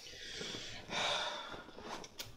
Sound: sigh

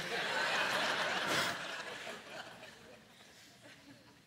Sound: laughing

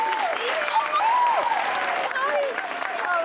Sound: shrieks

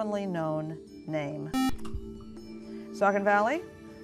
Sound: buzzer

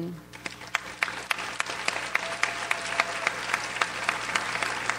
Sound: audience applauds

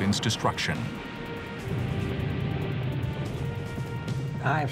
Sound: explosions

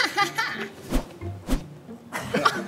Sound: with the sound of cutting the wind

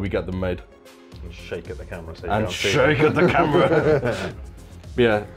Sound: laughs

